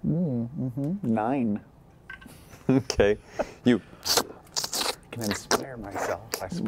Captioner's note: slurping